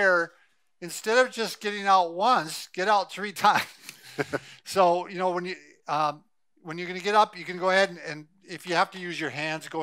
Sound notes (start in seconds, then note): 3.5 laughing; 3.8 laughs